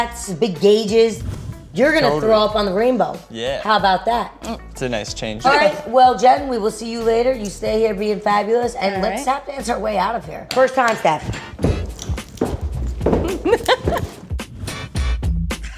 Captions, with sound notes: You're gonna throw up on the rainbow. How about that? - It's a nice change. - All right, well Jen, we will see you later. You stay here being fabulous and let's tap dance our way out of here. First time step. (feet pounding) (hip hop music)